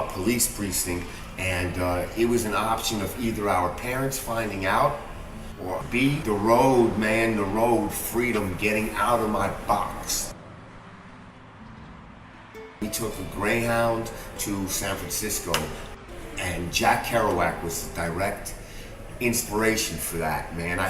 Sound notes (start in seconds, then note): 10.6 street noise